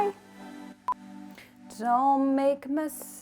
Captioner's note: test screen beeps